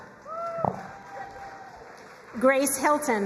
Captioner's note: crowd cheering and applauding